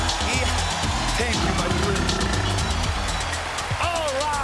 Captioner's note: growls